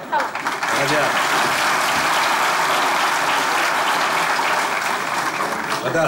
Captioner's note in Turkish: Alkış sesleri